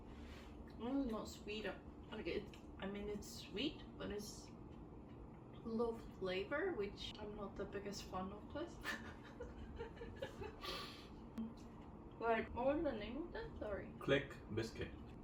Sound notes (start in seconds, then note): 8.9 awkward laugh